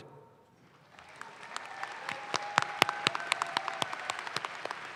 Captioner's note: audience claps